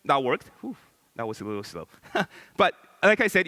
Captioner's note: laughs